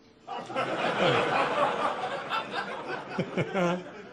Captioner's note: audience laughing